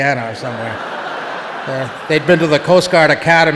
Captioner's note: audience laughing